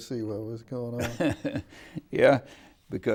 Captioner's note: laughing